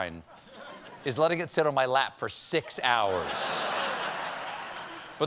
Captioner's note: laughter